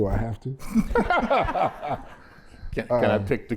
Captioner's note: laughter